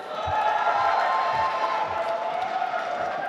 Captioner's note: applause